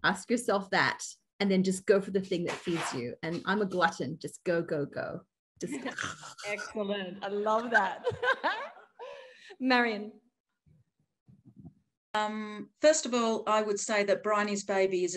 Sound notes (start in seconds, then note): 5.9 hissing; 7.8 audience laughing